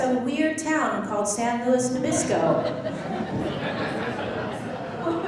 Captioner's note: laughing